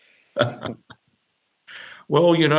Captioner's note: chuckling